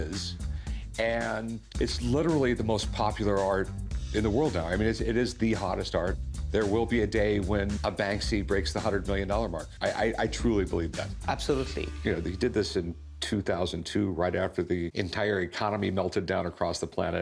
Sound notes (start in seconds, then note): none